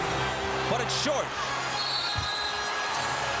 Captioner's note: whistle blows